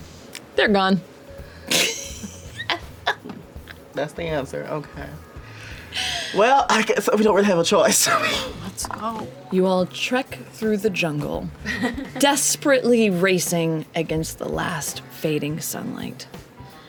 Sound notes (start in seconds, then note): 1.7 laughter; 7.9 laughs